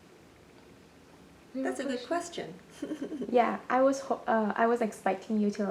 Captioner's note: laughs